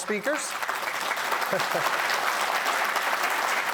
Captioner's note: applause